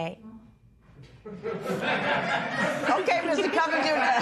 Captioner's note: laughter